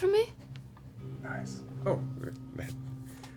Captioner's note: whispers